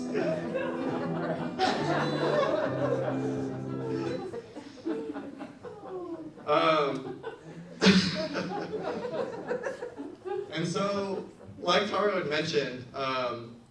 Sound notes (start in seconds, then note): 0.0 gentle upbeat music; 0.2 audience laughs; 6.4 chuckles; 7.9 audience laughs